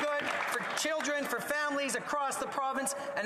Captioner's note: some Applause